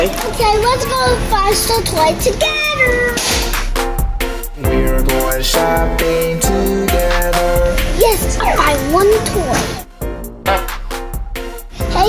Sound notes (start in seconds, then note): 9.4 slide whistling; 10.5 silly horn honking